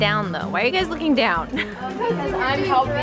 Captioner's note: laughing